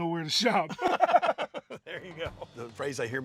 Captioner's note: laughter